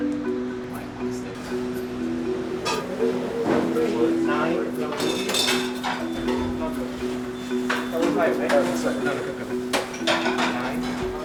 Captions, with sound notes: - Nine. (kitchen chattering) Nine, 10.